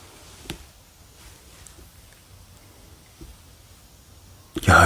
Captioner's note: the thumping sound started to be heard again